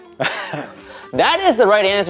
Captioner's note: laughing